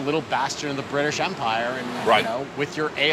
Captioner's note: none